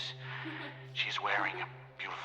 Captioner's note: Presence laughs